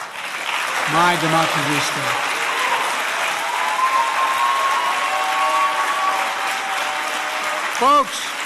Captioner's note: applause